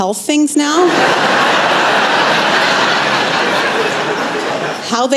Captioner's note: laughter